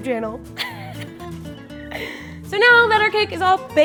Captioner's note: laughs